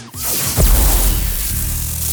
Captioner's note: zap